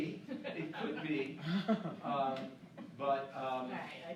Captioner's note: laughing